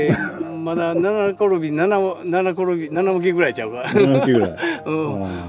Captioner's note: laughs